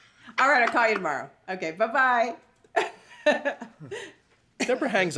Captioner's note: laughs